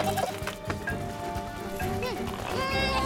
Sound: grunting

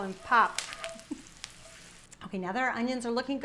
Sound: giggling

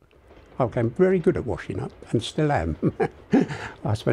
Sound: laughs

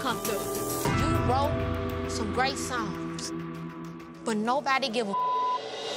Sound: beep

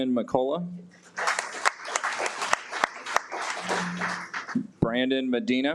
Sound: audience applauds

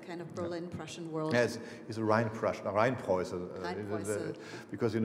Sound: speaking foreign language

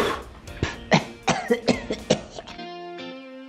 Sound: coughs

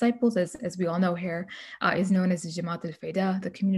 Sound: speaking arabic

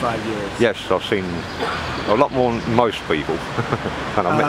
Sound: laughs

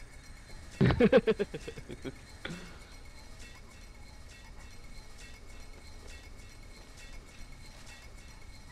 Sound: random laughter

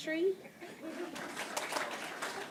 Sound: applause

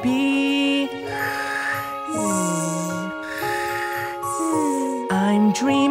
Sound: snore

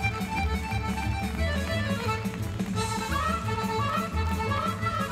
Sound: audience applauding and cheering

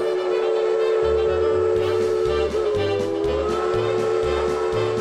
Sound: whistle blowing

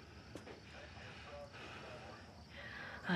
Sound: breathes deeply

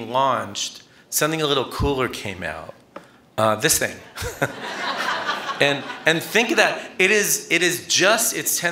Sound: laughter

